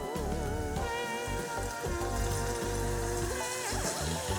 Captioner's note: sizzling